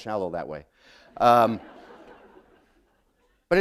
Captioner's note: laughter